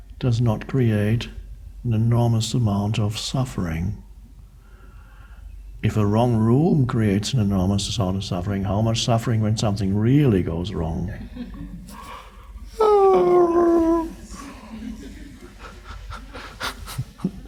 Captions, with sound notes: does not create an enormous amount of suffering. If a wrong room creates an enormous amount of suffering, how much suffering when something really goes wrong? (mimics scream) (laughs)